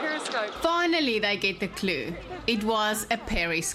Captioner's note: narrating